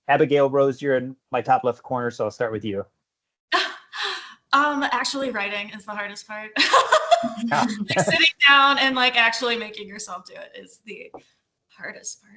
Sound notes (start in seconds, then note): 6.6 laughter